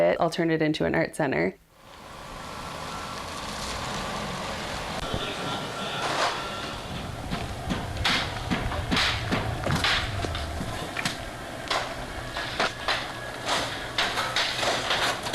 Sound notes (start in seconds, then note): 7.0 banging